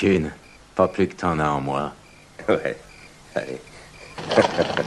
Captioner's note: chuckles